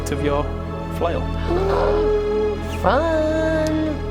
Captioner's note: excited noise